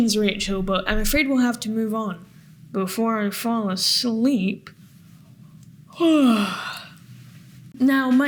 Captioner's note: yawns